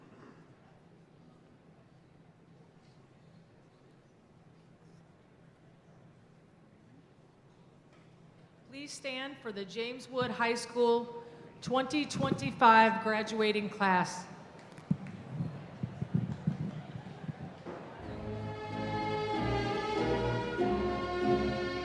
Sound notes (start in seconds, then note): 14.6 audience chattering